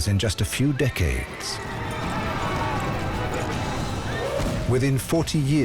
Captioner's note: soldiers shouting